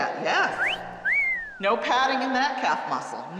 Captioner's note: whistling